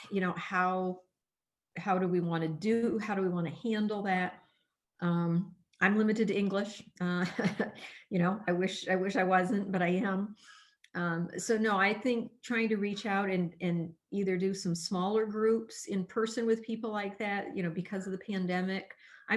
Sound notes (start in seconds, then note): 7.2 laughter